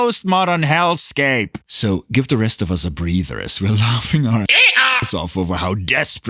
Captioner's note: donkey noise